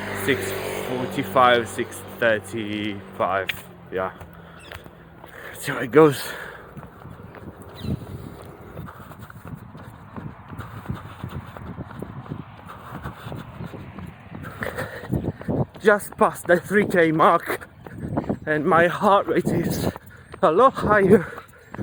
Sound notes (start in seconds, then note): 7.3 heavily breathing